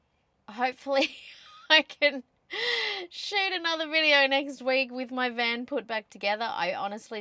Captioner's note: laughing